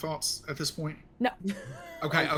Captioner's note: laughing